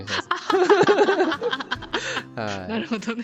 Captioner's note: laughter